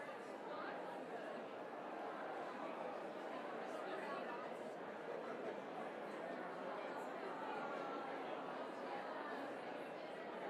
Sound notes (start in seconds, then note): none